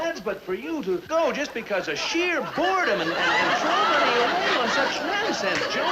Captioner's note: people laughing